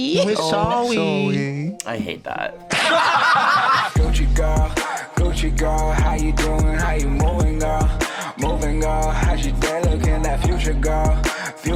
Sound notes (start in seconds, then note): 2.6 all laughing; 3.9 outro music